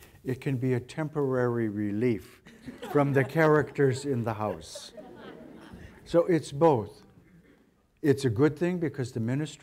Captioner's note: audience laugher